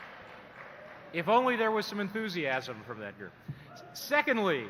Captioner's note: applause